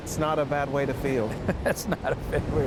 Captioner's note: laughing